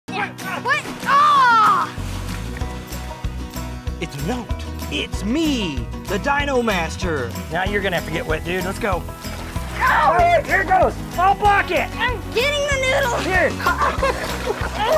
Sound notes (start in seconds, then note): 0.5 yelling; 1.9 playful music; 13.5 giggling